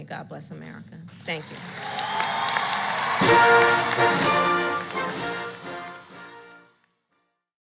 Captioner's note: applause